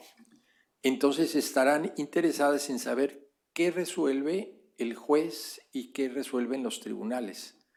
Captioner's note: speaking spanish